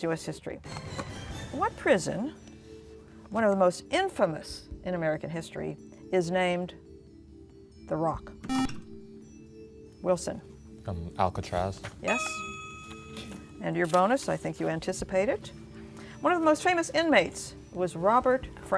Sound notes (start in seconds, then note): 8.4 beeping